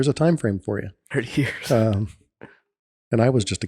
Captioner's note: chuckles